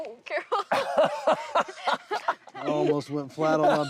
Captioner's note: laughter